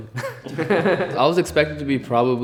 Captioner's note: everyone laughs